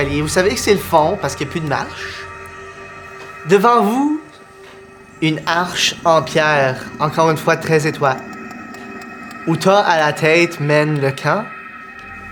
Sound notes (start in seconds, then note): none